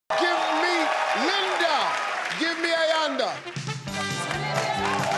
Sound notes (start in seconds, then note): 0.1 audience applauding; 2.4 fast-paced upbeat music; 4.9 audience applauding